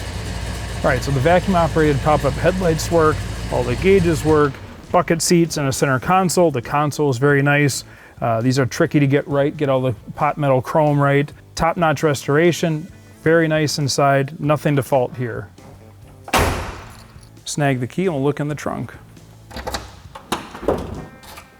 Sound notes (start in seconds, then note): 16.2 door slams